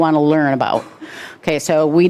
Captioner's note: man coughs